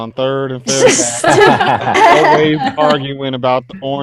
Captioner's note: all laughing